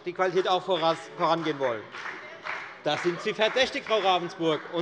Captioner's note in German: Beifall bei der FDP